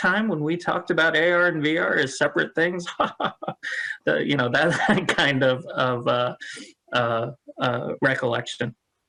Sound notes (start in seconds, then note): 2.8 chuckles